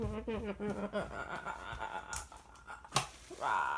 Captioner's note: vocalizations